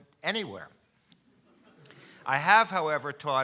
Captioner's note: audience laughs